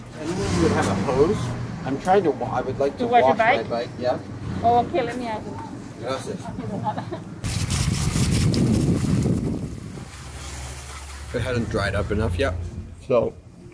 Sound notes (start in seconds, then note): 6.5 speaking Spanish; 7.3 woman speaking Spanish; 7.4 water splashing